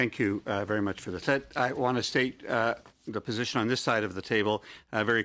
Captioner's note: speaking French